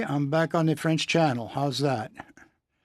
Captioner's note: speaking French